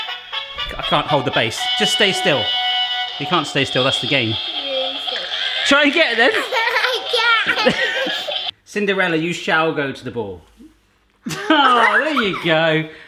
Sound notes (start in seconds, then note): 0.0 dynamic upbeat music; 7.8 laughing